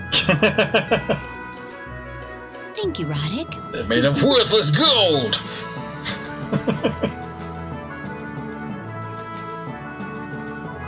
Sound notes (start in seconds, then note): 0.0 laughs; 5.9 giggles; 8.1 laughs